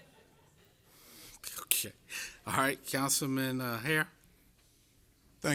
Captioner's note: laughter